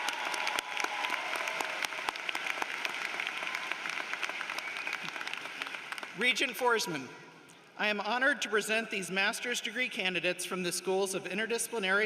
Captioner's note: cheering and applause